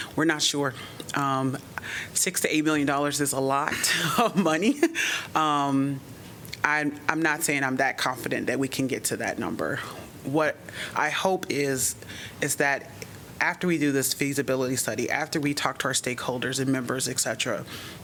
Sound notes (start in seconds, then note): 4.0 laughter